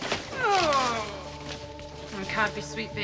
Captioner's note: grunt